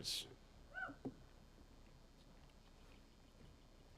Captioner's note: attendee cheers